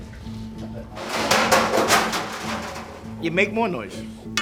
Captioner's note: crashing